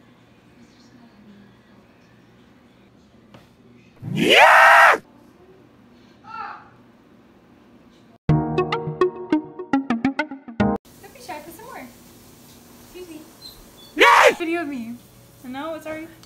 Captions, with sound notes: (Call of Duty Zombie sound) (Small yell in the background) (Upbeat music) "Don't be shy, put some more" "'Scuse me" (Call of Duty Zombie sound)